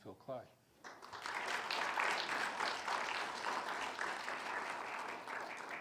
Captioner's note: audience applauding